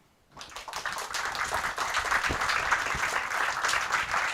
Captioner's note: applause